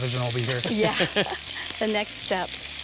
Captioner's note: laughter